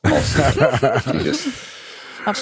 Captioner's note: laughing